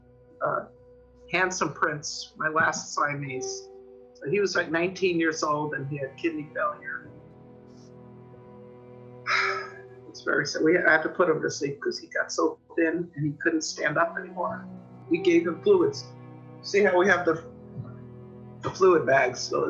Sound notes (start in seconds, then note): 9.2 sighs